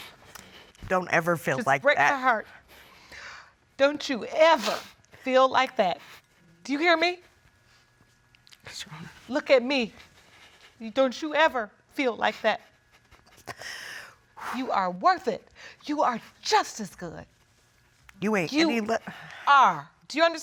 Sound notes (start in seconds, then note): 10.2 voice breaks